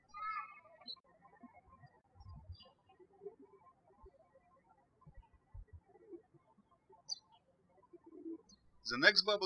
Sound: birds chirping

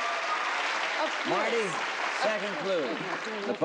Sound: applauding

